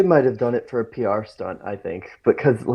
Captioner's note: laughs